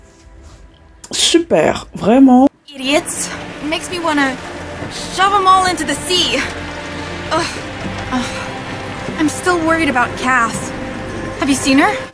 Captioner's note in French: ironie